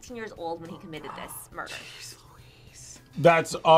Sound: whispers

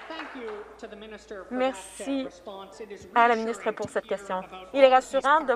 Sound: some Applause

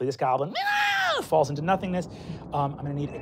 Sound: squeals

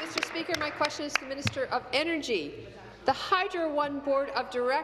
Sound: applause

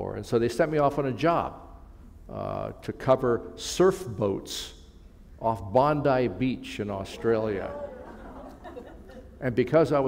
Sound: laughter

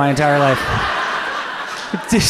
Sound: audience laughs

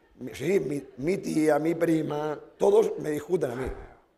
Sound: speaking spanish

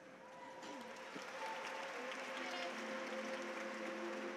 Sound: audience applauds

